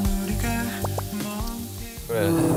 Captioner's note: nom, nom